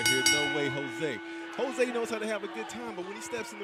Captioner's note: bell ringing